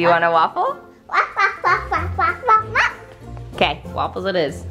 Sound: barking

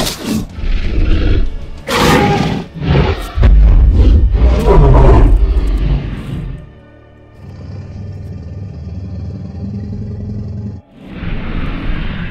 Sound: low rumble growl

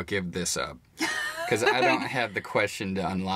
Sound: Tiny laughs

